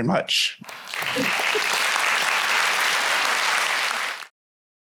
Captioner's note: applause